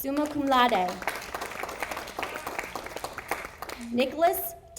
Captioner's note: audience applauding